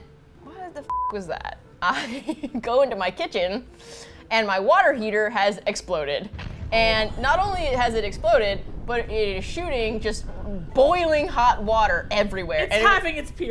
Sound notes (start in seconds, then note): 2.1 laughs; 6.3 explosion noise; 11.3 explosion noise continues